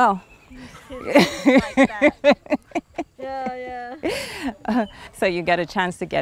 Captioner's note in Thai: เสียงหัวเราะ